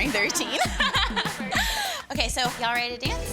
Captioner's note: laughs